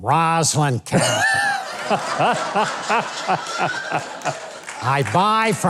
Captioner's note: crowd laughing